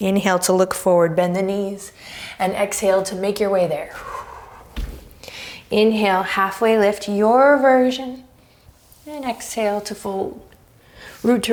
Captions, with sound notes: Inhale to look forward, bend the knees and exhale to make your way there. (deep breaths, thump) Inhale, halfway lift, your version, and exhale to fold, root to rise here,